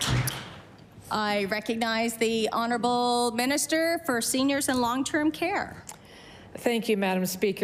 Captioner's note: applause